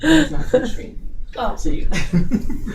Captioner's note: laughing